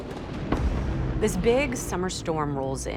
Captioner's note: thunder crackles